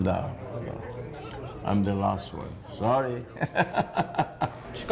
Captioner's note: laughing